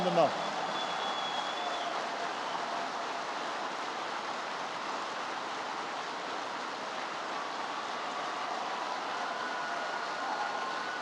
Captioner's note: applause